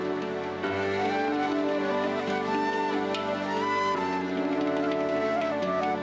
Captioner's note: applause